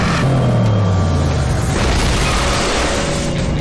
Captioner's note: crash